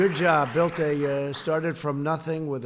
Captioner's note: applause